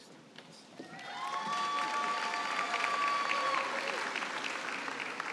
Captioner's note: cheering and applause